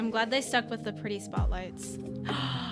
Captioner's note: gasp